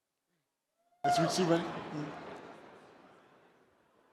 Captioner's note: chatter